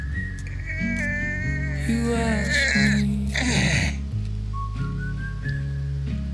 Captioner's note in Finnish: ponnistuksen ähinää